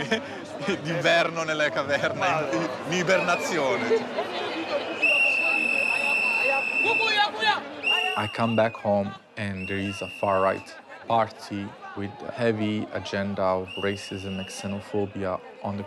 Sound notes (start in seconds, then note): 4.9 whistle whistling; 7.3 speaking in foreign language